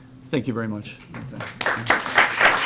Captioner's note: applause